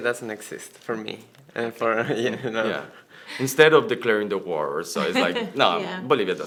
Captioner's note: laughs